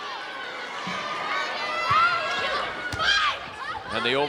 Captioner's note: players and audience shouting